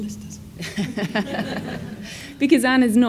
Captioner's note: audience laughs